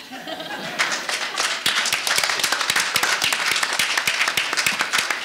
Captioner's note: audience laughing and applauding